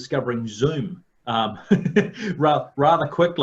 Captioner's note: laughing